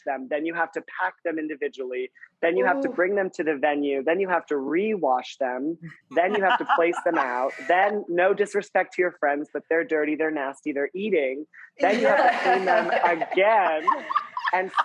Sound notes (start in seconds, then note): 6.2 laughing; 13.9 laughing